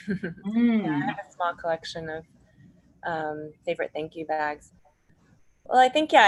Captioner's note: laughs